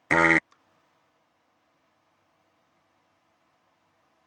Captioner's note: blowing